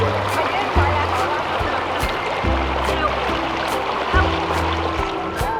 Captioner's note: gurgling river water